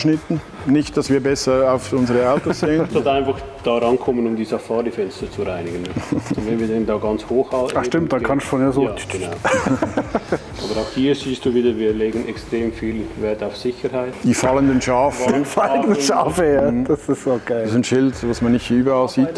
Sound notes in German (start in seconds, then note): 9.4 lacht; 16.6 lacht